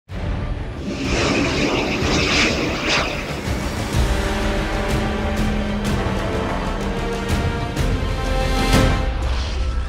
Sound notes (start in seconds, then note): 0.7 engine whooshing; 4.0 dramatic music